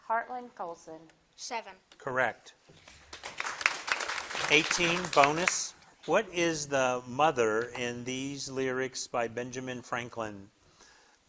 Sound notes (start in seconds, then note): 2.8 crowd claps